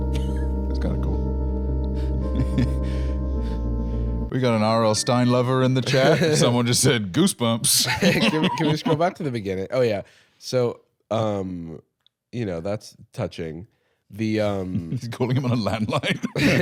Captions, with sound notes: That's kinda cool. (chuckling) We got an RL Stine lover in the chat. Someone just said, "Goosebumps!" Can we scroll back to the beginning? Oh, yeah. So, um... you know, that's touching. - The, um... - Is he calling him on a landline?